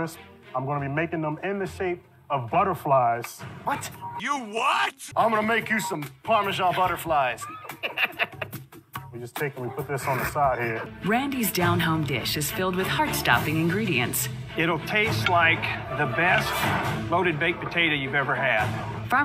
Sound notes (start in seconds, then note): 5.0 imitating Faruq's voice; 6.5 laughing